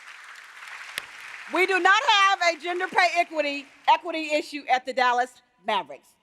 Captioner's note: applause